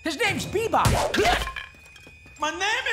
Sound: grunting

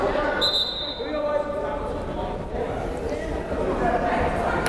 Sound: whistle blows; crowd chattering

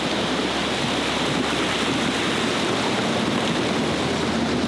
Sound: splashing

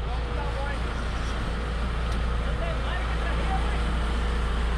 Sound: boat engine running

